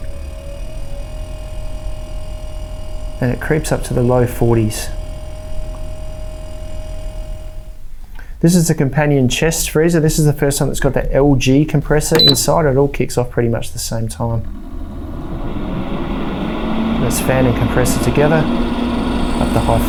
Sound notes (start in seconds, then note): 0.0 compressor buzzing; 13.5 compressor buzzing; 15.8 fan drones